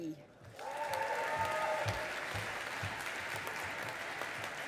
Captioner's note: audience applauding